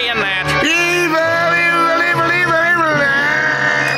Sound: screaming

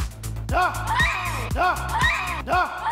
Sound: yelling; woman screaming; yelling

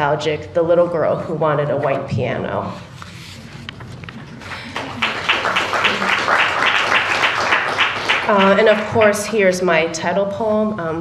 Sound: applause

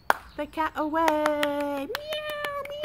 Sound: continuous clapping; clap clap

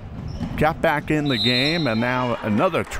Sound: whistle

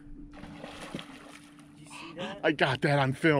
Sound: splash

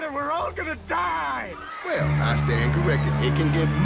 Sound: people screaming

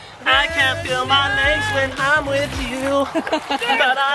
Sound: laughing

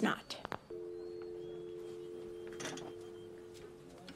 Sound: dial tone

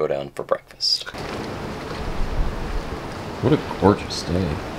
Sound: waves gently swishing

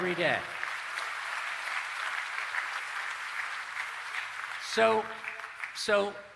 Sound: applause

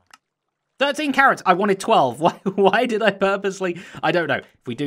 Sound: laughing

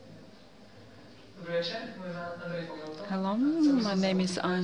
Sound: non-english

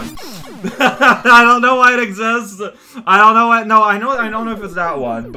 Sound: laughs

